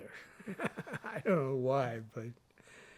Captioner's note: chuckles